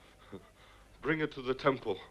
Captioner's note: Nepakin chuckles